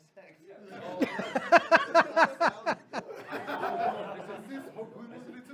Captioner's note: laughter